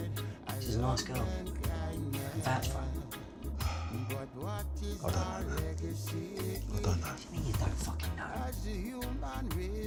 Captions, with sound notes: She's a nice girl... I can vouch for her. [Yardie sighs] I don't know, man. I don't know. What do you mean you don't fucking know?